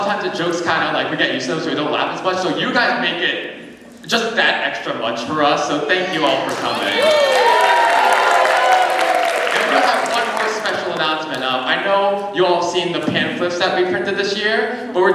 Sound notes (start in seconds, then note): 6.4 cheering